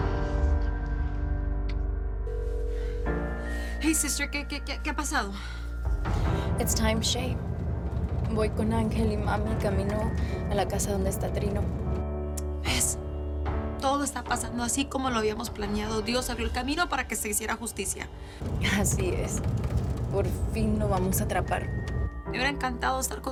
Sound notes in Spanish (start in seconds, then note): 3.1 La otra línea timbra